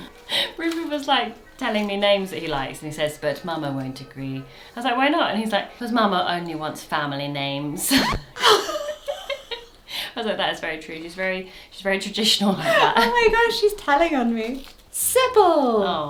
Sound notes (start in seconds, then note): 7.8 record scratches; 7.9 both laugh